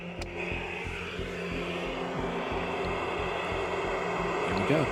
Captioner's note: static buzzing